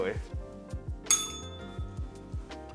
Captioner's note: bell rings